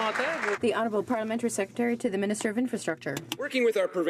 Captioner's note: some Applause